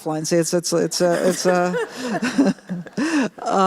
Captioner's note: laughter